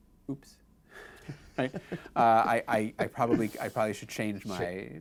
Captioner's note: laughs